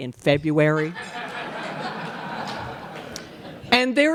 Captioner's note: laughter